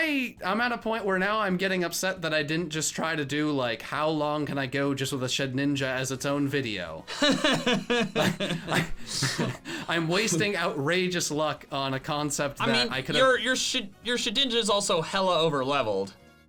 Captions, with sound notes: I'm at a point where now I'm getting upset that I didn't just try to do like how long can I go just with a Shedinja as its own video? (laughing) I'm wasting outrageous luck on a concept that I coulda-- - Your Shedinja's also hella over-leveled.